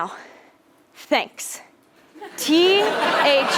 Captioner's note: laugh